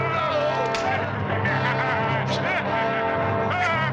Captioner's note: laughing